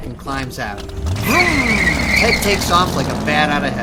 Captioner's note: car engine revving